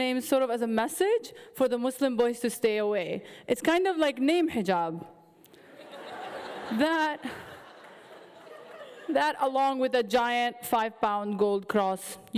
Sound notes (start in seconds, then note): 5.6 audience laughing